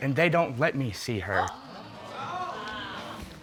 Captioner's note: audience exclaiming